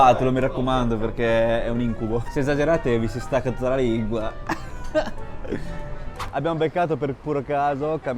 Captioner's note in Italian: risate